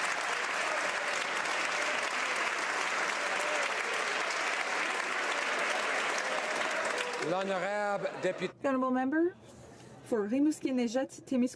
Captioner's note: some Applause